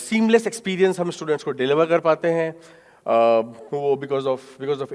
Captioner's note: speaking in foreign language